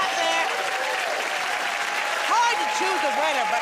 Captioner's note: cheers and applause